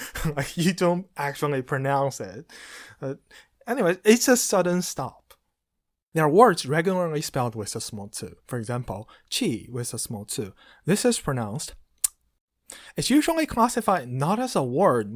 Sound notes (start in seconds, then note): 12.0 audible tongue click